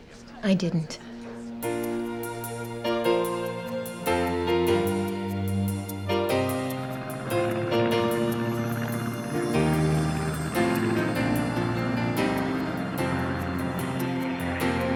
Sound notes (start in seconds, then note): 6.7 plane engine whirring